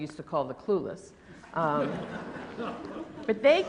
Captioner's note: laughter